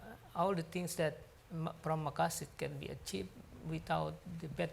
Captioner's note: speaks foreign language